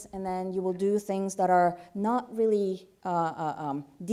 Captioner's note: none